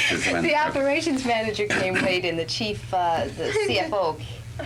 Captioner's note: laughing